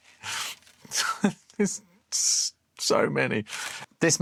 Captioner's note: laughs